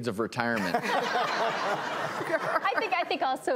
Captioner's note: audience laughs